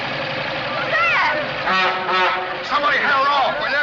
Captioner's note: horn honks